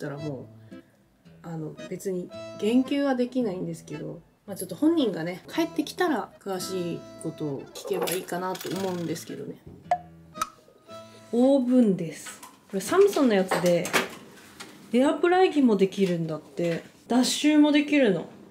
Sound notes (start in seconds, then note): 9.5 silent